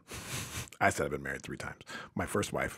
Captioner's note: chuckles